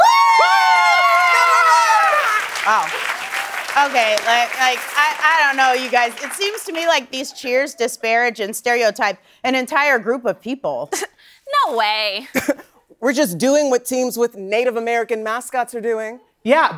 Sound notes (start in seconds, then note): 2.8 cheering and applause; 10.9 scoffing